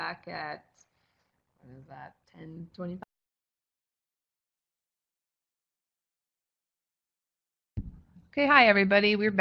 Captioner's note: no sound. Pause for break in recording